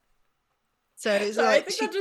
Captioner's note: laughing